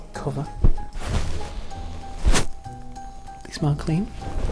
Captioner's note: inhaling